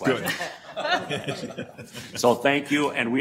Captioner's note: laughter